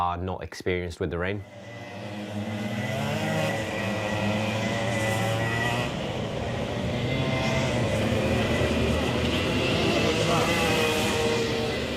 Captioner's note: karts zooming